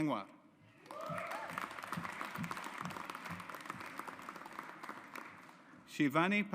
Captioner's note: audience applauds